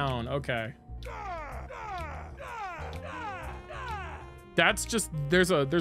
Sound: more groans raising in pitch

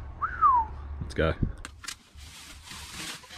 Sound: whistles

